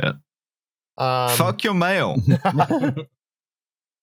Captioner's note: laughter